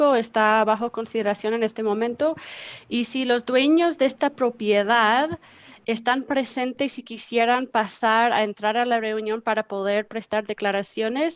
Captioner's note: speaking in spanish